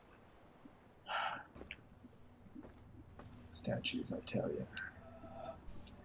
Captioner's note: sighs